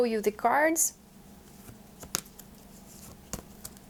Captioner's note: sound of the cards shuffling